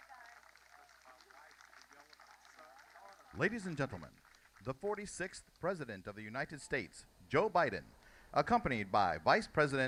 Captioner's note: cheers and applause